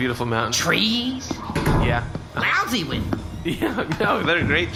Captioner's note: laughing